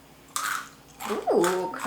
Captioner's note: corn snacks crunching